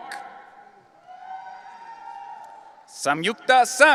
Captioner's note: audience cheering